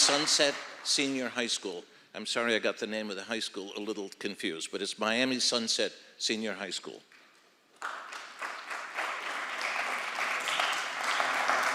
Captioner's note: applause